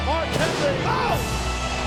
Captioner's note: pyro bangs